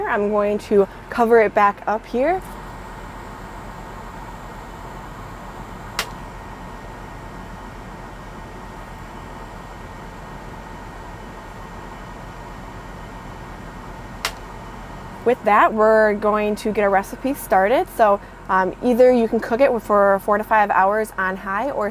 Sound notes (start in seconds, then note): 3.1 air conditioner whirring